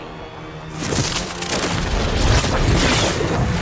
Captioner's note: intense zapping